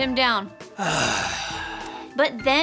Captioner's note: Jonah gasping